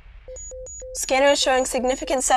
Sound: warning signal

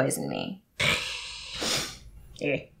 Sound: hissing Sound

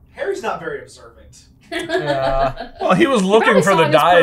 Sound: laughter

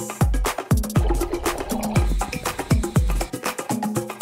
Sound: sloshing

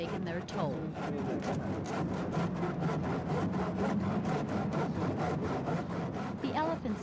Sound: sawing

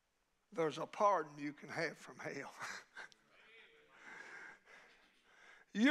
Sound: chuckles

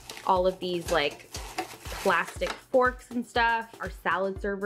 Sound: plastic crinkling

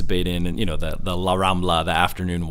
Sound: speaking in a foreign language

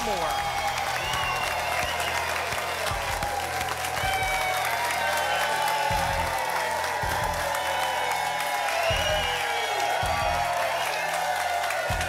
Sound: applause and cheering

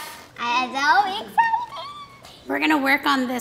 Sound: squeals

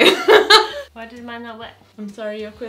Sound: laughs

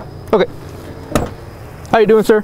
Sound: car door creaks

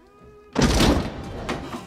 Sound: slam

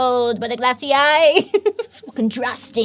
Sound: laughs

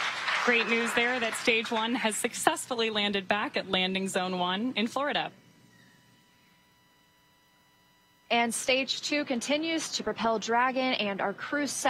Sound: alause

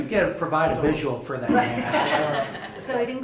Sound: laughter

